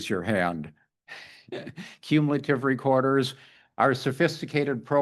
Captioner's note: laughs